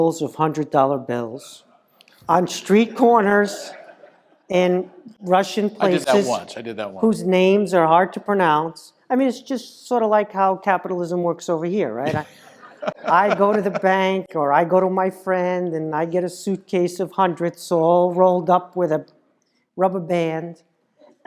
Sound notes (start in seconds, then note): 12.0 laugh